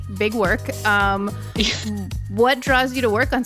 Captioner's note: chuckling